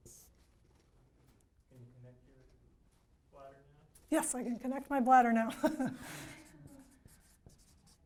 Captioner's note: quiet laughter